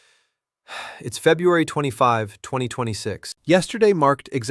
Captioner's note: sighs